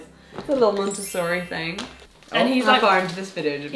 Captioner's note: chimes jingle